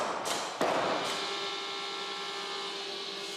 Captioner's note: engine roaring